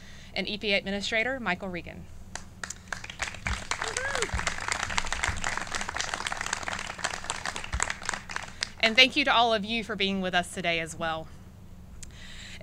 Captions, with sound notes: and EPA Administrator Michael Regan. [CLAPPING] And thank you to all of you for being with us today as well.